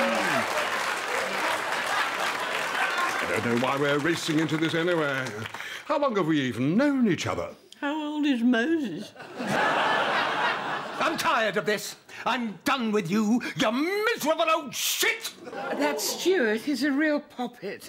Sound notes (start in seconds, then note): 7.4 slurred